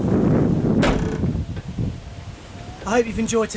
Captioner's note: door slams